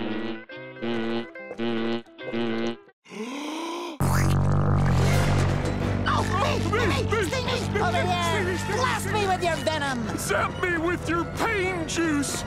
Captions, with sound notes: [yelling] Over here, blast me with your venom! Zap me with your pain juice!